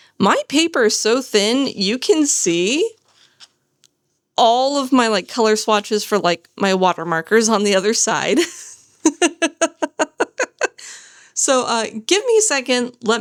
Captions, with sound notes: My paper is so thin, you can see all of my like color swatches for like my water markers on the other side. [laughter] So give me a second.